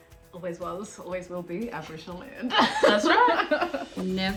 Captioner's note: laughs